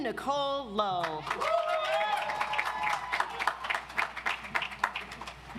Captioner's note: audience applauds